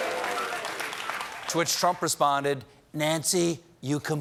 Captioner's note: cheers and applause